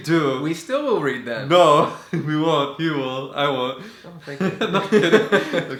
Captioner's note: haha